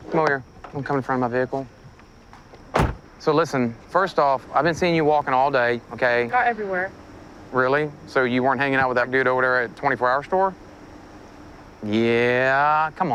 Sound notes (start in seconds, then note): 2.3 car door closes